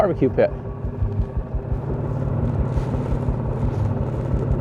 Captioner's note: engine buzzing